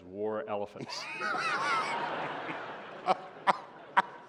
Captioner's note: laughter